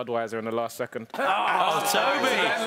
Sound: groaning

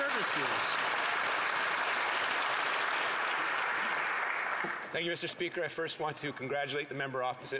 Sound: some Applause

